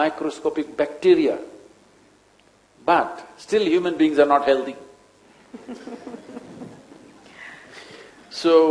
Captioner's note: laughs